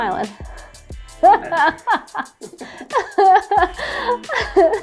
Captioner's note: laughing